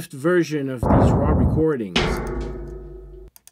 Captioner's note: big rattling sounds